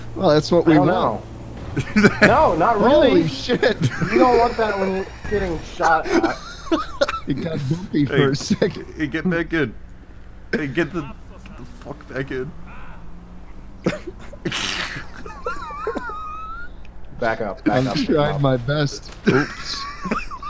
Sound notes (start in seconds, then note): 1.6 laughing